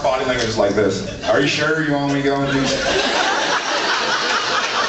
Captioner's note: drawls